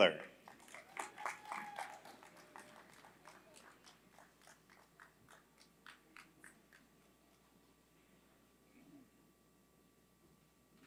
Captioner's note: applause